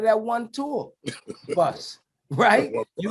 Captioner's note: laughs